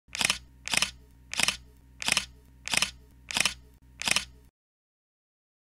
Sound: camera shutter

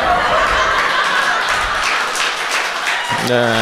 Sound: audience cheers

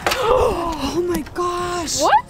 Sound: gasps

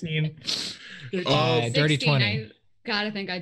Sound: group chattering

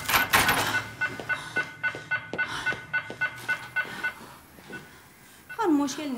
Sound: ventilator beeping so fast

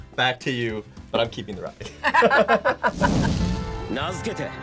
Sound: both laugh

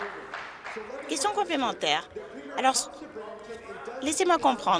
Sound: applause

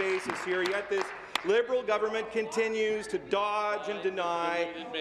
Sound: applause

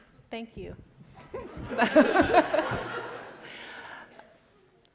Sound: laughter

